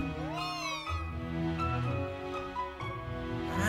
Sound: happy Alcremie noise

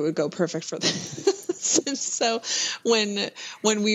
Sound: laughter

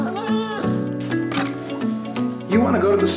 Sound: dog yipping; tapping

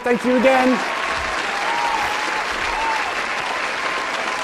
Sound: applause

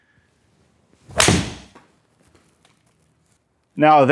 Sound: golf club hits ball, ball hits screen

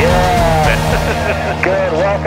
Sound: laughs

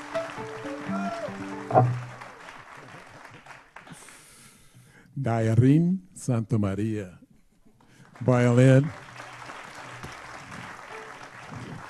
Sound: applause

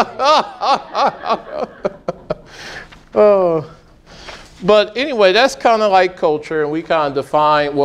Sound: laughing

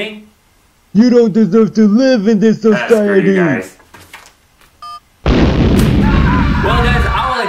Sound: explosions

